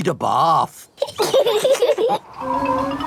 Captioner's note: both laughing